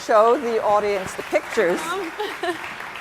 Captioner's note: audience applauds